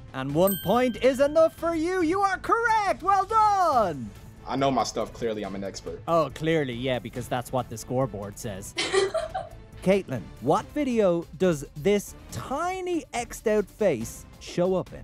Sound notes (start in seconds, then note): 0.4 bell dings; 8.8 laughs